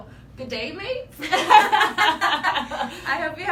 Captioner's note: laughs